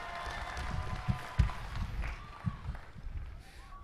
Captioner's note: applause